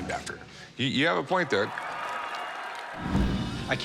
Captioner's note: cheers and applause